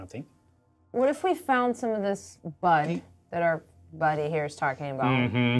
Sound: none

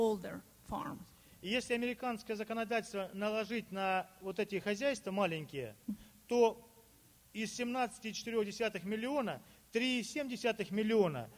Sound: speaking Russian

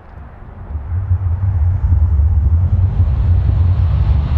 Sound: distant rumble

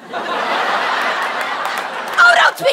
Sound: audience laughter

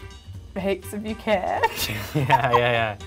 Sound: laughs

